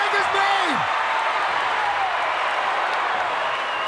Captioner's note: crowd cheering